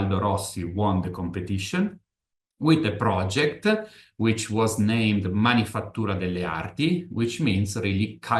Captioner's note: italian